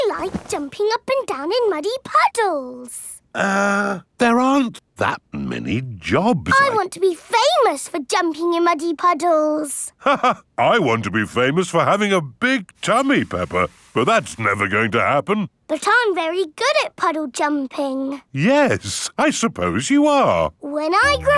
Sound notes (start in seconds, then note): 10.5 laughs